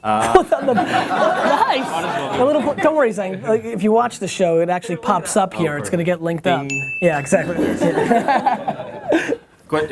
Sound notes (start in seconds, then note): 7.4 group laughs